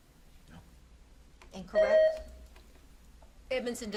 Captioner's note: buzzer beeps